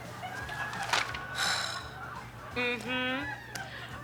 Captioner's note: sighs